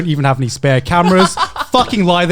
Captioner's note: laughing